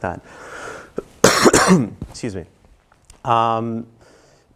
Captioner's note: cough